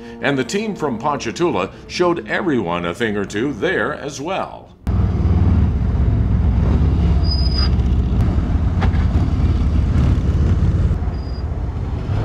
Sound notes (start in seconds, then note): 4.8 motorcycle engine rumbling; 7.1 motorcycle brakes squealing